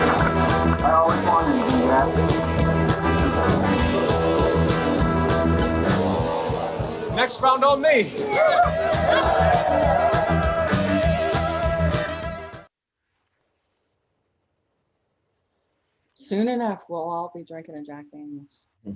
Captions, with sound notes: - I always wanted to do that. - Next round on me. (patrons cheering) - Soon enough, we'll all be drinking a Jack Daniels.